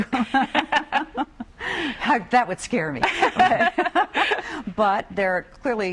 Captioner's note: laughter